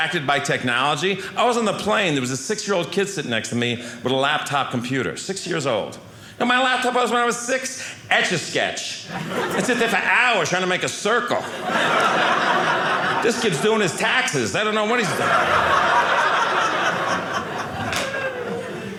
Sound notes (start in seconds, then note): 11.4 audience laughing